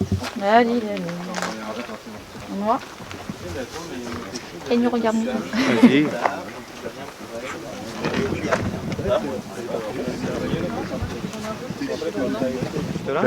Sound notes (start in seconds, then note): 5.9 laugh